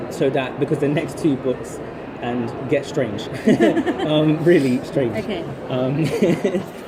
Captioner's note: laughs